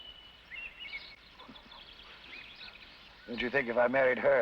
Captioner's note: birds chirping